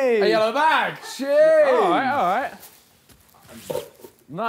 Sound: group chattering

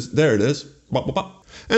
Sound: subdued ta-da noise

